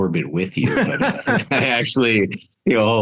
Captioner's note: laughs